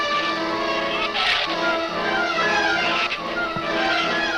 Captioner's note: shrews snarl